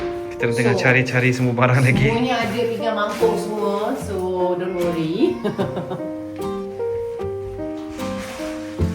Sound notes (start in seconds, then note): 5.3 laugh